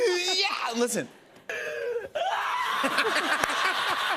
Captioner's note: imitates scream; woman screaming; laughter